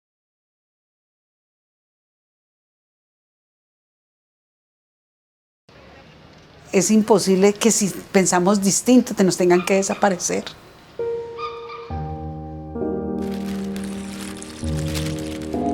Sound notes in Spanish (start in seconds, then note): 6.7 Voz de mujer; 10.9 Suena música clásica